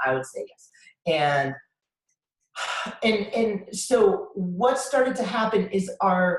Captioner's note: sighs